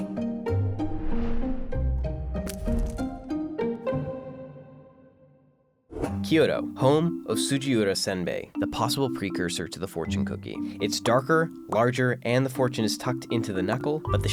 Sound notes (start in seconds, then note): 0.0 bright music; 0.6 swooping; 2.4 shattering